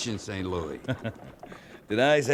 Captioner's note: laughing